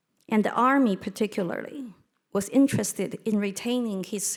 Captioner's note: none